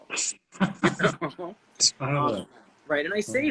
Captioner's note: both chuckling